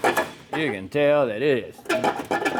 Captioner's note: wood Clanking